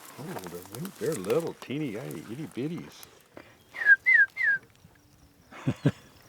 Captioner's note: whistling